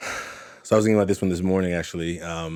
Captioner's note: sighs